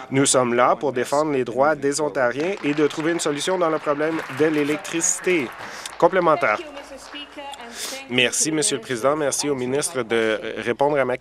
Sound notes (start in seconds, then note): 5.9 applause